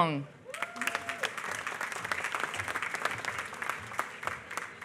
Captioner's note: applause